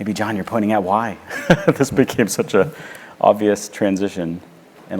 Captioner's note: laugh